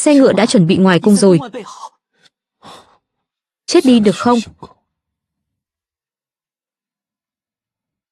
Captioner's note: khịt mũi